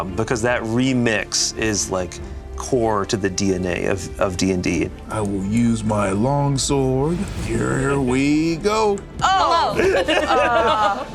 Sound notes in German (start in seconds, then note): 7.4 lacht